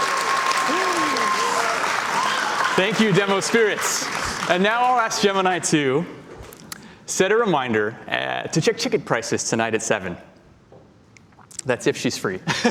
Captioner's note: applause